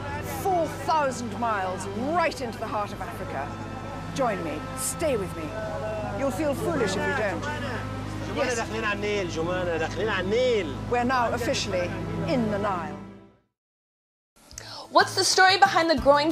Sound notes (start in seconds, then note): 8.4 speaking foreign language